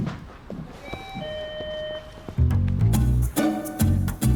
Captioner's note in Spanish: Alarma de la puerta